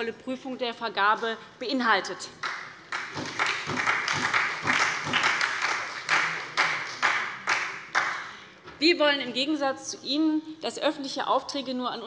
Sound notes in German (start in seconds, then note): 2.4 Beifall bei der SPD